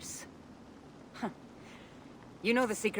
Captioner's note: laugh